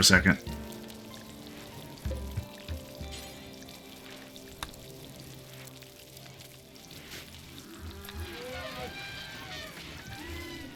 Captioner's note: silence